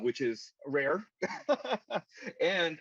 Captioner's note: laughs loudly